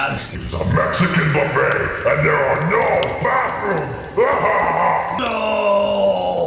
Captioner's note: evily laughs